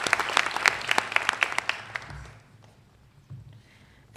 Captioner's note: applause